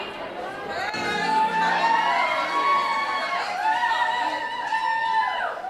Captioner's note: applause, cheering